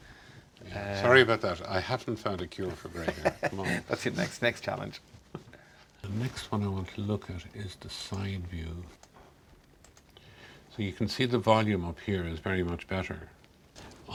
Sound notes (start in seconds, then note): 2.7 laughs